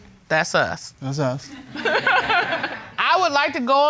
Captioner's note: judge laughs